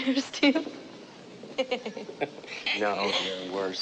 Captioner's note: laughing; laughs